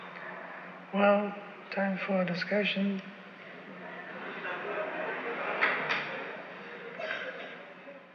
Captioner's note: laughter